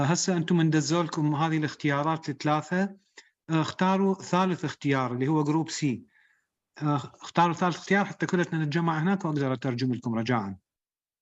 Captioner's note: speaking arabic